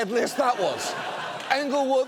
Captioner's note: audience laughs